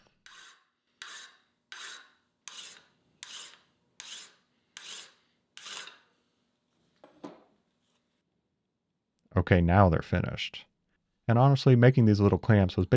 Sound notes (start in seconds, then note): 0.1 metal screeching; 7.0 table thuds